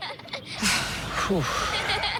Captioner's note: sighs; squirrel noises